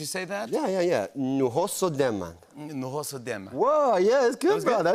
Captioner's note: Speaking High Valyrian